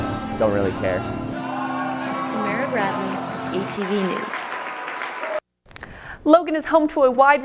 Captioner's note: crowd cheers and claps